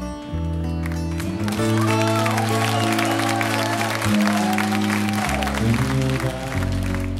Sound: audience applauding and cheering

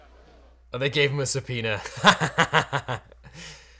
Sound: laughing

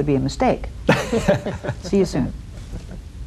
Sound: panel laughs

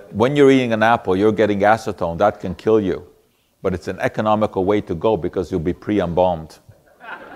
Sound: audience laughter

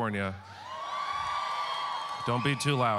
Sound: audience cheering

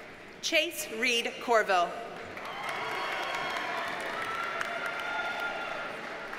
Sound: audience cheers and applauds

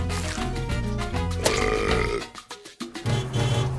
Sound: burps

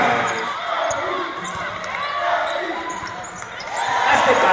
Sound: crowd Cheers

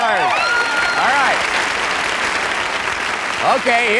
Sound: applause

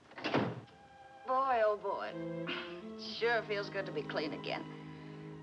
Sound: sighs

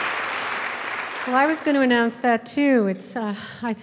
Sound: applause; voiceover

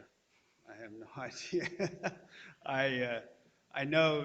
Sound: laughing

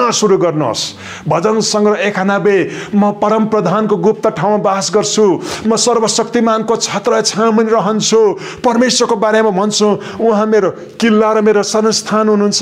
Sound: reciting

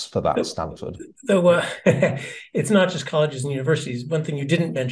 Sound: laugh

